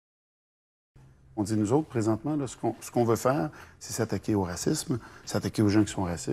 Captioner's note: speaking in foreign language